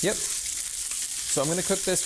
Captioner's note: skillet sizzling